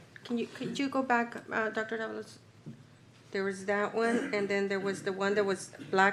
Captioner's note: clears throat